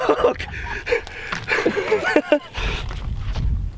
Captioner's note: laughing and panting